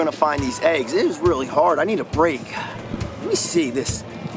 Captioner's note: sighs